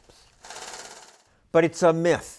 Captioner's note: sound of money counting